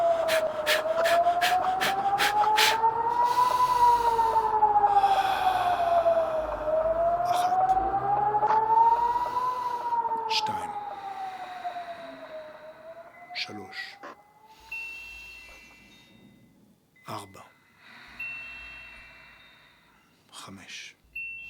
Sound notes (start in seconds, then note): 3.3 deep inhalation and slow exhalation